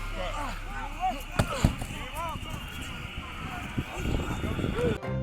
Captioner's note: grunting